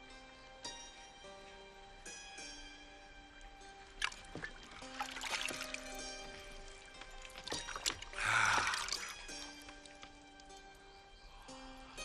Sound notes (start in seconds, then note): 8.1 sigh